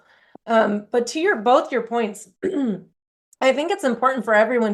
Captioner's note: clears throat